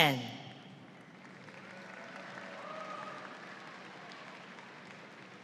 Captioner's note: audience applauds